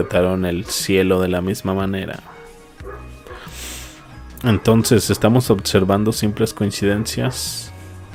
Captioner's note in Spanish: resoplido